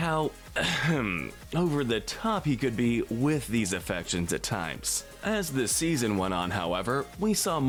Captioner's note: ahem